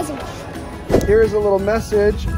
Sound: whoosh

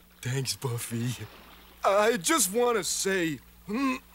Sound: clears throat

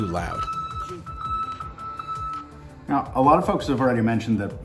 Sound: truck beeping

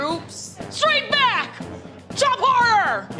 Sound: yells

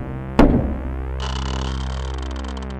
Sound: door creak

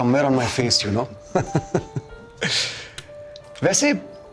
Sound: Rana laughs

